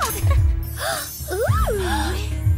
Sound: gasp

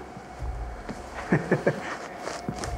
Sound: chuckles

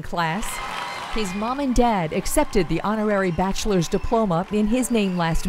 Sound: applause

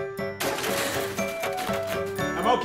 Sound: crash

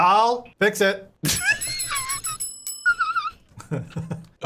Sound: bell chiming; laughing

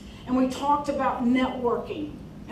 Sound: none

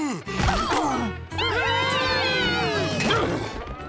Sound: cheering

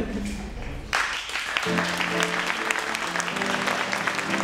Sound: applause

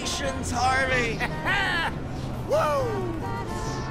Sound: laughs

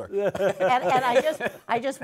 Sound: laughter

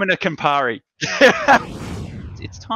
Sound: laughs

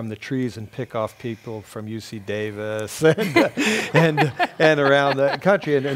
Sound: laugh

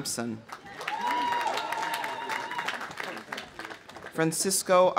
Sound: audience applauding; audience cheering

